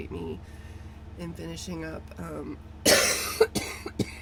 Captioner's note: coughs